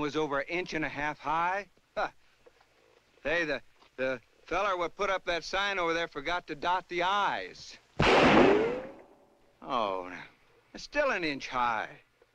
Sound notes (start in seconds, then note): 8.0 gunshot